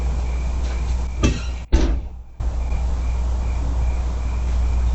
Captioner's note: door shut sound